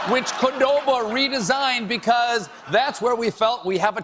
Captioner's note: laughter